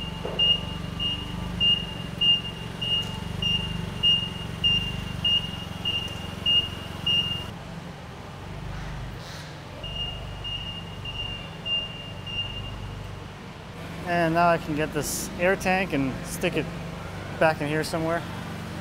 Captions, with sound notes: (beeping) (motor humming, beeping) And now I can get this air tank and stick it back in here somewhere.